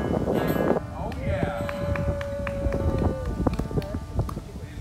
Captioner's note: cheering